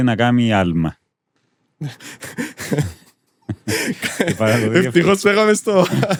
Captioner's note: laughter